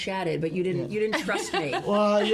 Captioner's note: laughs